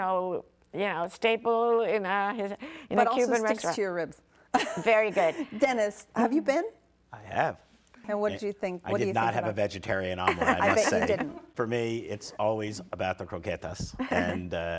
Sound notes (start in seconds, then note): 4.6 participants laughing; 13.3 laughing